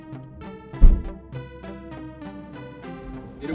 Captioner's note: trunk shut